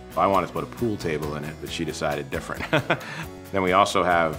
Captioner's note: laughs